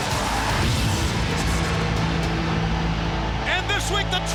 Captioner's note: explosion bangs